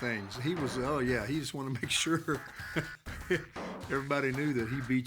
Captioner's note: laugh